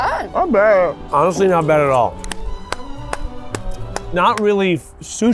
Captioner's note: clapping